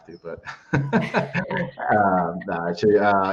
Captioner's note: laughs